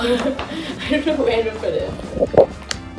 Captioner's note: laughs